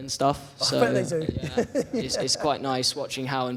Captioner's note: laughs